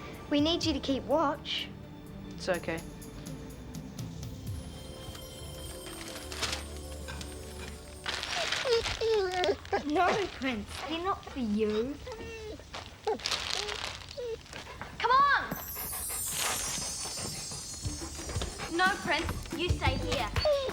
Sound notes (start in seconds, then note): 8.7 dog whining; 16.8 mid-tempo music